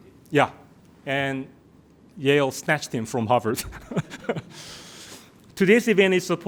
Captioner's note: laughs